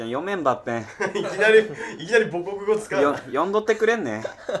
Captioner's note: laughing